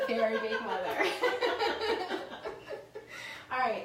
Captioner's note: laughing